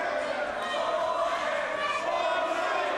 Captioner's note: crowd